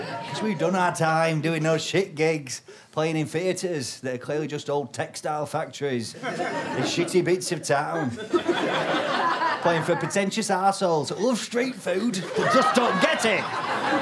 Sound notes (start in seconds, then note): 8.1 audience laughs knowingly; 13.8 audience laughter